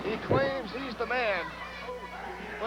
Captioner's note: crowd chatter